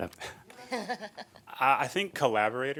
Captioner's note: laughing